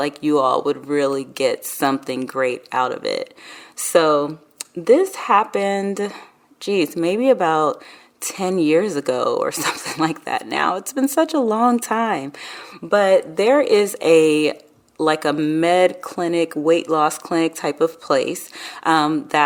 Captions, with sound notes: like you all would really get something great out of it. So this happened, geez maybe about 10 years ago or something (laughs) like that, now it's been such a long time. But there is a, like a med clinic, weight loss clinic type of place